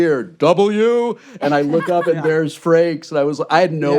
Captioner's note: laughter